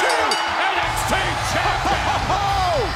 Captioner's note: bell ringing